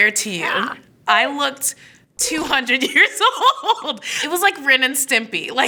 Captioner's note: laughing